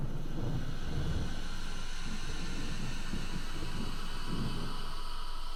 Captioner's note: ghostly wailing begins